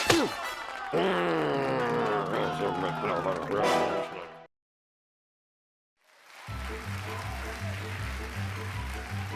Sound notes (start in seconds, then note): 0.9 grunts; 1.5 growls; 6.0 cheers and applause